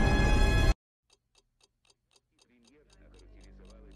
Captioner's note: clock ticking; reporter speaking in foreign language